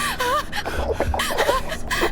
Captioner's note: creature gurgling